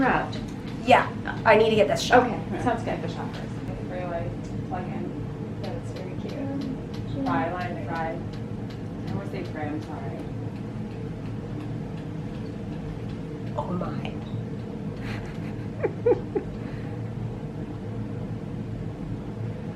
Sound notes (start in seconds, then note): 3.6 chatter; 15.0 chuckling